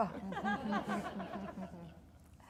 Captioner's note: audience laughing